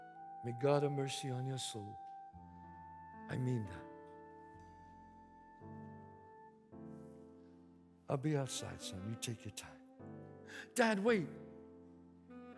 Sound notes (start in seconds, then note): none